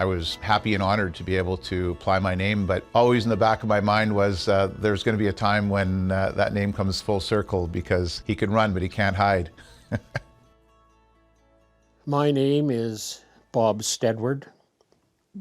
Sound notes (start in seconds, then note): 9.6 chuckles